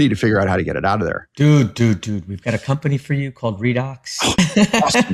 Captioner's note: laugh